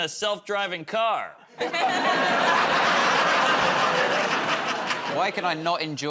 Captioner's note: laughter